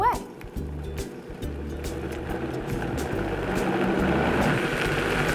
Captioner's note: mixer whirring